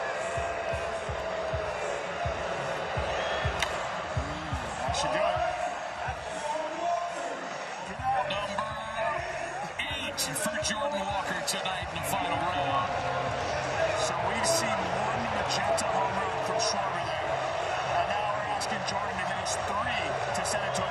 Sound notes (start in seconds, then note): 4.6 booing